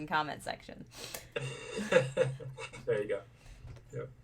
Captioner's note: laughing